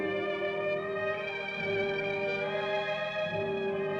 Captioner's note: none